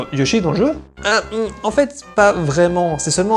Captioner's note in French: Son d'hésitation